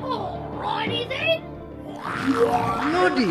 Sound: demon growl

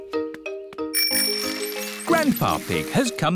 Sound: bell rings

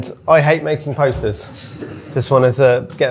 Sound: audience laughing

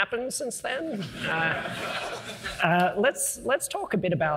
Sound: audience laughing

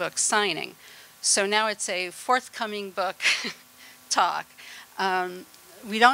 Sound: laughter

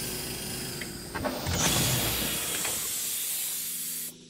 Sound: airlock hiss

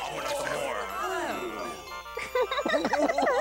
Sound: laughter

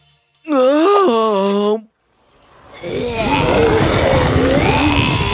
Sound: zombie sounds

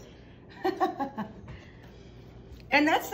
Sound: Rachael chuckling

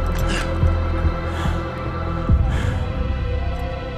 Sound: panting

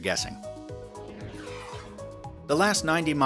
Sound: zooming sound

